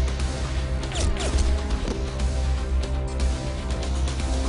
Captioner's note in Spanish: Disparos